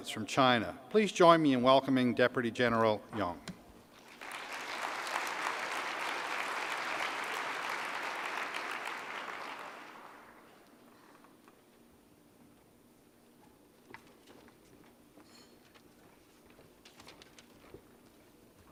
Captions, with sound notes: from China. Please join me in welcoming Deputy General Yong. *applause* Yong speaks Chinese. Transcription is that of translator.